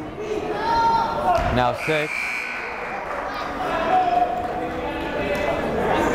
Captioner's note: buzzer blaring; chattering